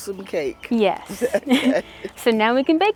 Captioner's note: chuckles